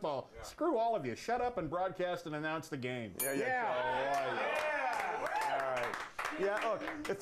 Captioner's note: bell rings; applause